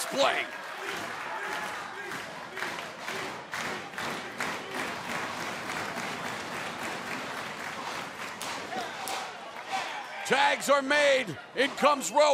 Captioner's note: crowd cheering